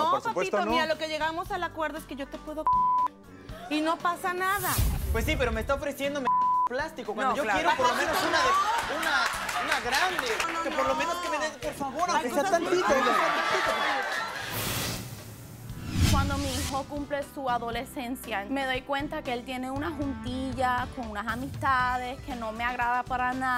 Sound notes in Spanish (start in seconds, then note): 4.4 Risas; 6.2 Bip; 12.3 Risas